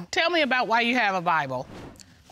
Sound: none

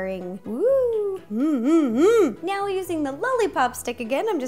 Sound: mmMmMm!

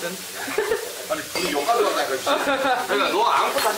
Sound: laughs

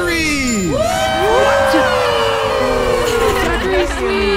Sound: all cheering

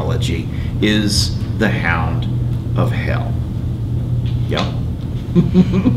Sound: laughs

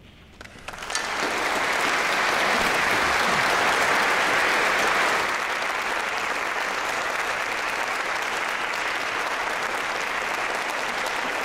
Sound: applause

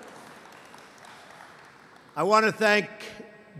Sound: applause

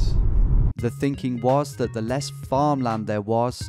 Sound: voiceover

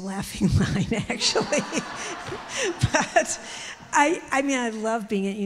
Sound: audience laughs

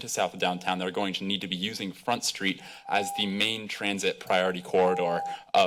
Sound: beeping

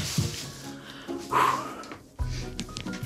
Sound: exhaling

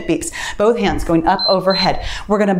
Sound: timer beeps

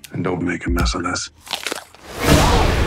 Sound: crunch

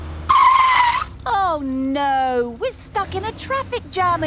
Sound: tires screeching

